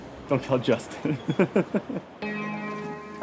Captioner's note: chuckling